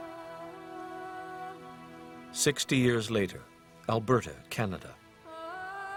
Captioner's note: somber choral singing; voiceover